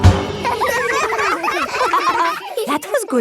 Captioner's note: all giggling